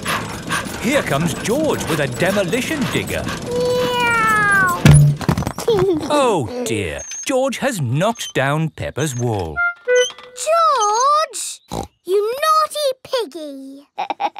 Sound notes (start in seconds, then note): 0.0 daddy pig panting; 3.7 george imitates airplane; 5.9 george giggles; 11.6 snorts